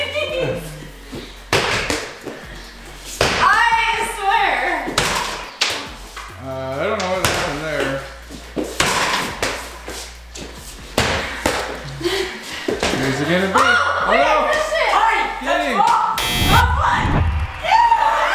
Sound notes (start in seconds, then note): 0.0 laughing; 8.6 ball bouncing; 15.1 yelling